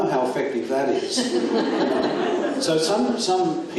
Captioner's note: audience laughs